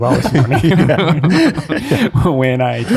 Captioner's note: all chuckling